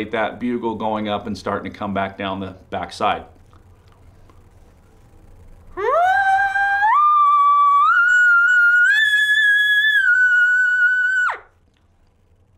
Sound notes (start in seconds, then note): 5.7 ascending elk call sound